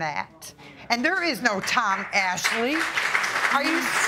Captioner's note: audience clapping